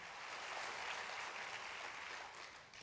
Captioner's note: applause